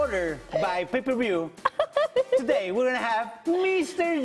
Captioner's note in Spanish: risas